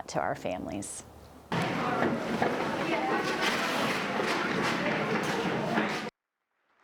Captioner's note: group chatter; applause